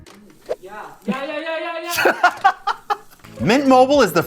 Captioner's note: laughs